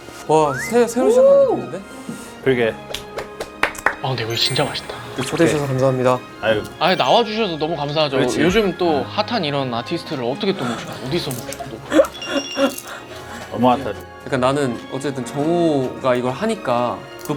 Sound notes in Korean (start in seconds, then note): 2.8 박수갈채